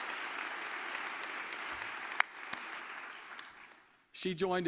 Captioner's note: applause